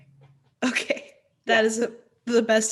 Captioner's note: laughs